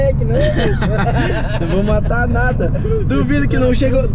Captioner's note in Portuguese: Risadas